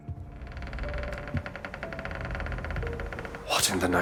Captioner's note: door creaks